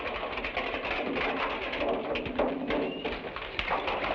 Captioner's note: horse hooves patter